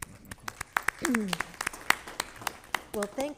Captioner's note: applause